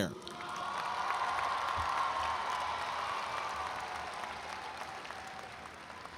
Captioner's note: audience applauds and cheers